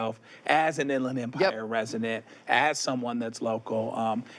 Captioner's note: none